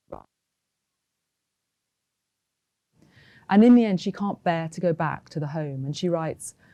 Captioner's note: audio cuts out